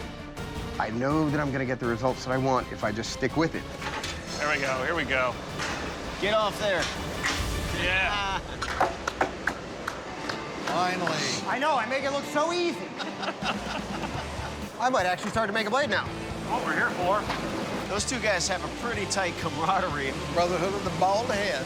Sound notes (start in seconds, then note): 9.0 applause; 12.8 both laughing